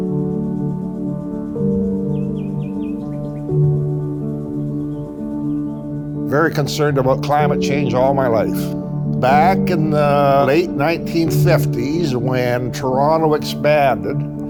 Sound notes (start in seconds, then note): 0.1 gentle music; 2.7 birds chirp